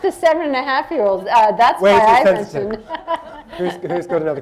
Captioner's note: laughter